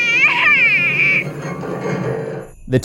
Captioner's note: crying